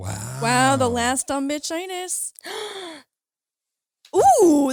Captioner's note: gasps